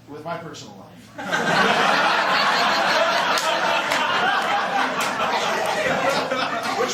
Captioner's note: laughter